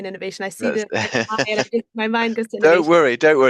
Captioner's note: laughs